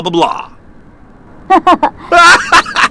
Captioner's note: laughes